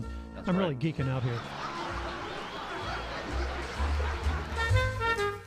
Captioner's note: applause and laugh track; big band swing